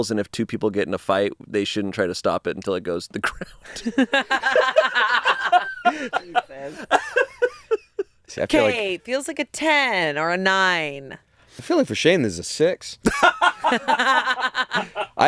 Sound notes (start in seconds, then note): 5.5 all laughing; 13.0 laughing